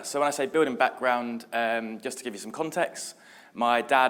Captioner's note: none